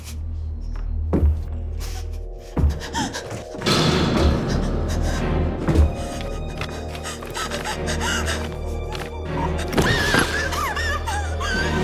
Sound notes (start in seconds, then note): 1.8 gasping; 4.6 panicked breathing; 6.6 thumping; 9.7 screams